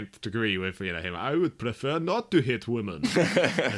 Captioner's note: laughs